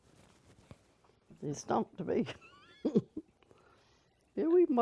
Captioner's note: laughter